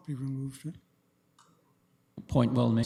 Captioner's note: audio drop